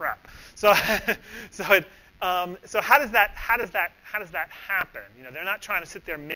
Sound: laughs

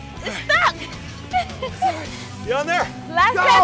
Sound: laugh

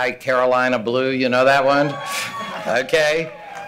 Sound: cheering

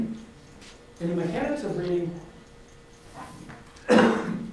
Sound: coughs

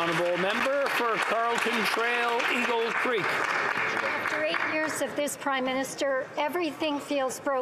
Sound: applause

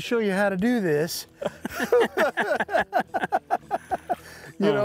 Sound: laughing

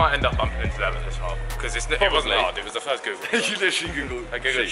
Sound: team mumbling

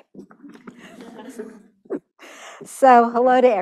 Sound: laughter

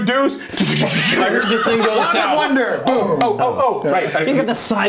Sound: exploding noise

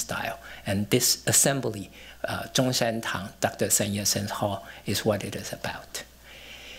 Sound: non-english

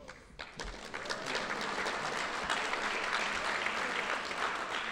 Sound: audience applauding

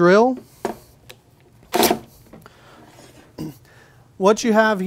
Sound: drill sound

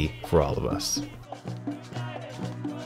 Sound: drumming, protestors chanting

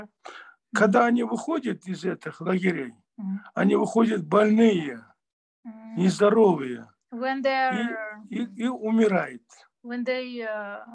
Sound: in Russian

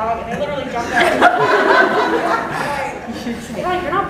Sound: group laughs

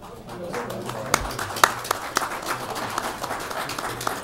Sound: audience applauds

